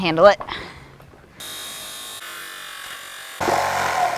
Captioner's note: saw whinning, no additional audio